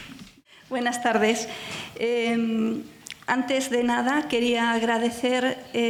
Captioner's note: speaking in foreign language